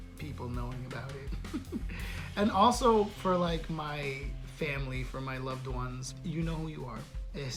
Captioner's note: giggle